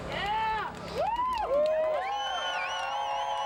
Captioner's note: cheering